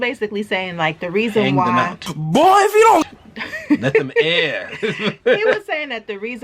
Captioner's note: ha, ha